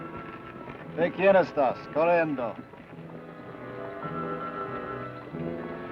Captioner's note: Ben speaks foreign language